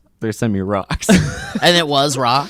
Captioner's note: laughs